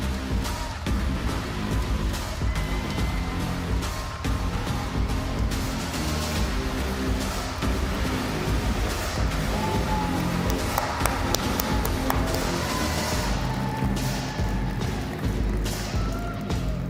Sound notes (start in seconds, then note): 3.5 applause